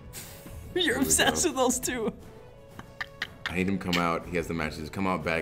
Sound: laugh

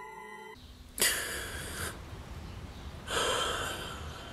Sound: loud gasp; music stops

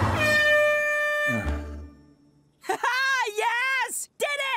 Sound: race horn blows; sighs

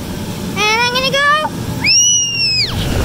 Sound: squeals

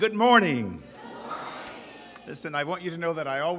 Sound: crowd

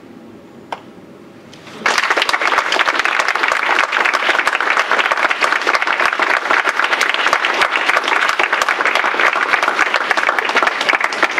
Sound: applause

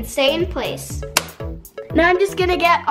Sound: snaps

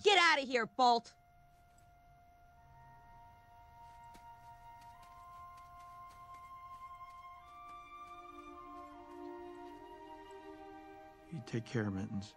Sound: silence

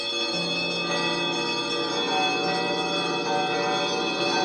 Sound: ringing and chiming intensifies

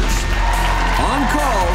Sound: applause

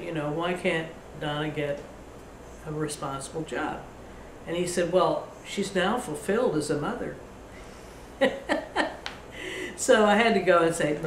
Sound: laughs

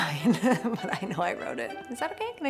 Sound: laughing

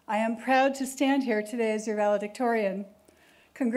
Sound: none

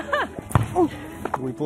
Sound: laughter

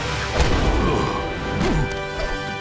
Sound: grunting

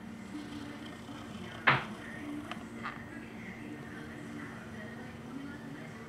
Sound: background radio/tv sounds

